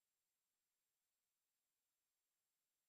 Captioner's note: none